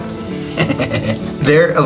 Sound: chuckles

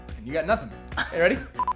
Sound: laughing

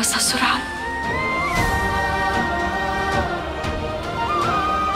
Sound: emotional vocalising

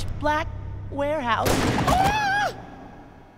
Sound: shrieking

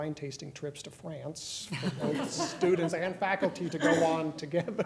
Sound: laughter

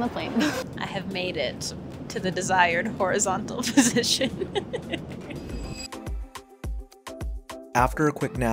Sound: laughs

